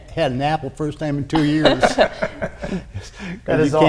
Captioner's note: laughing